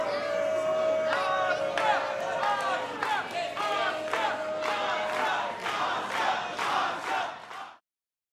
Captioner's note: crowd cheering